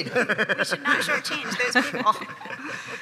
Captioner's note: chuckling